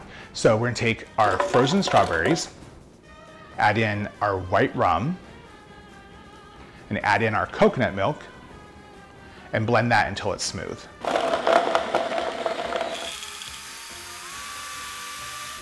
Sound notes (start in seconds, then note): 11.0 blender whirring